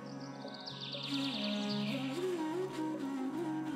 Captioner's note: birds chirping